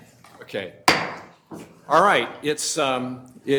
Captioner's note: gavel banging